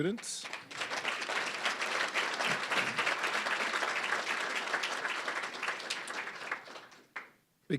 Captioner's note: applause